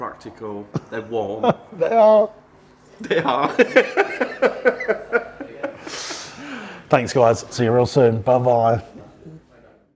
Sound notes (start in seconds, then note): 3.0 laughing